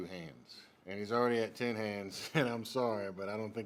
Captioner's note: laughs